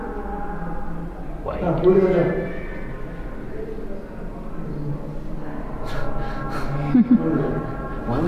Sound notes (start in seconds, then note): 6.5 chuckles